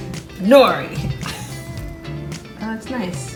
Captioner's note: laughs